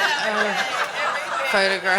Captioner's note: audience laughing